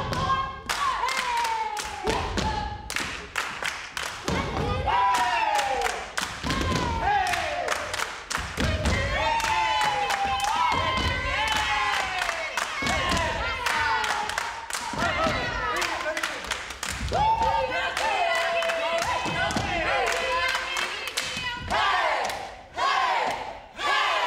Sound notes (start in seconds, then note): 4.2 group cheers; 8.5 group cheers; 10.4 group claps